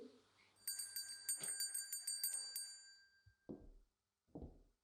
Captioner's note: bell rings